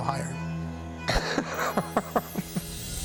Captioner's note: laughs